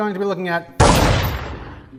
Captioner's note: gun shot